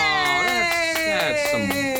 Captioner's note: cheering